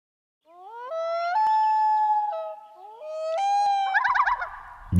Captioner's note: early morning bird calls